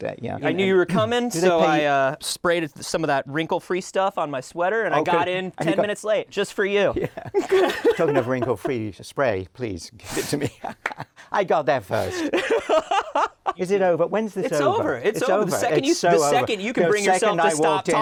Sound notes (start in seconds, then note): 12.0 laughter